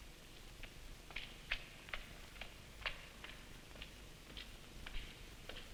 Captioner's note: footsteps rustling